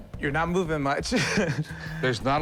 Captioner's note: chuckles